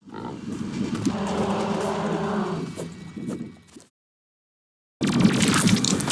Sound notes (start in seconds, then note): 1.0 boss Roars